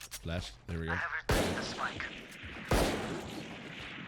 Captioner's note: loud bangs of shots going off